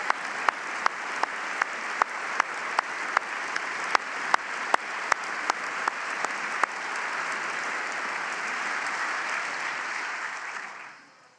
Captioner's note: applause